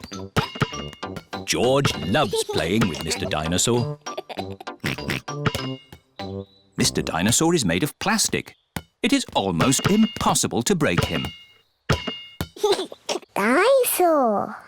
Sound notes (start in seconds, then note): 3.8 laughs and oinks; 12.6 giggles